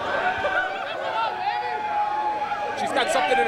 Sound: cheering

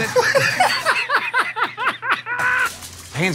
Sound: laughter

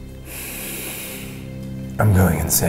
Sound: inhales

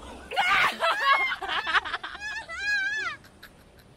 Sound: argh

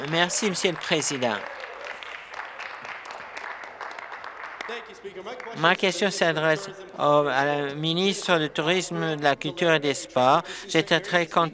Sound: applause

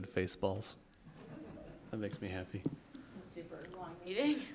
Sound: laughter

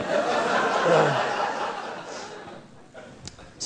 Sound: laughing

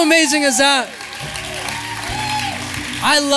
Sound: applause; cheering

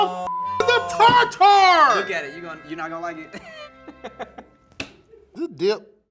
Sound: beep; chuckles

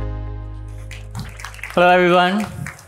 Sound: audience clapping

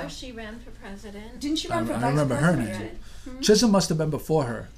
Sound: voiceover

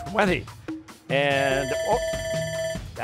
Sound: bell ringing

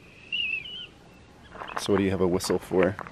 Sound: whistling

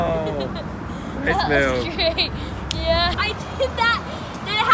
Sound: laughs

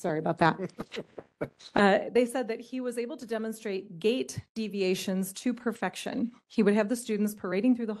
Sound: laughing

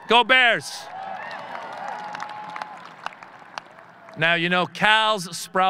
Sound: audience cheering

